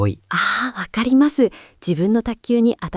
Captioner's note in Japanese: 息をのむ音